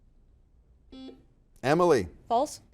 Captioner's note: buzzer buzzes